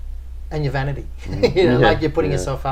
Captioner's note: laughing